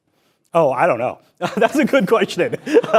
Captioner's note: laughs